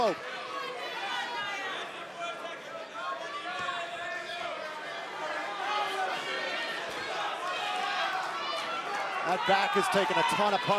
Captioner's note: crowd chatter